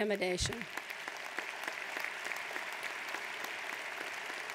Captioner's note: applauding